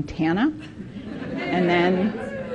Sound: participants laughing

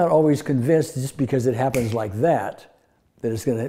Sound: snaps

